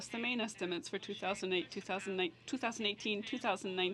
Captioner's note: speaking French